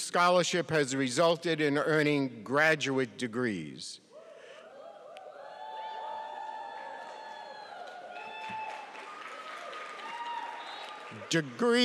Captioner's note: cheers